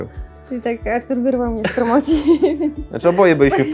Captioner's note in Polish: śmiech